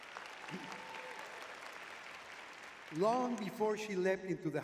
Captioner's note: audience cheering